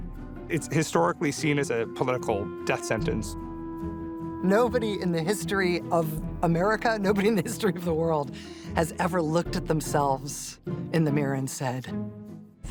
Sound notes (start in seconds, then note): 4.9 chuckling